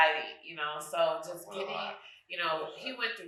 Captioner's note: speaking faintly